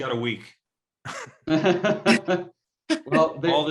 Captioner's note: all laugh